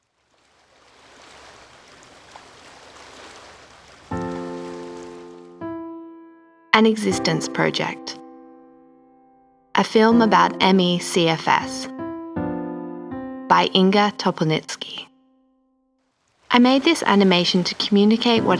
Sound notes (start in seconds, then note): 0.0 waves lapping at shore; 4.2 slow piano music